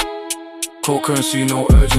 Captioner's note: deadpan